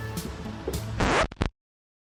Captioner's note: record stops